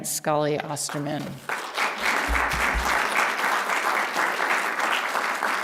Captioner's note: applause